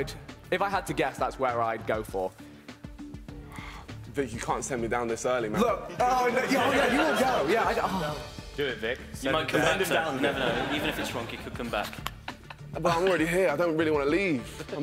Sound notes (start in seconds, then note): 6.2 laughing drowns out speaking; 9.8 laughing